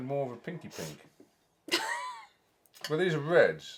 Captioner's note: laughs